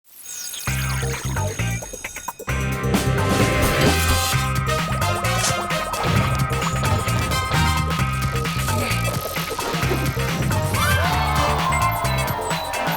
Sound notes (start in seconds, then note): 0.8 school bell ringing; 0.8 upbeat music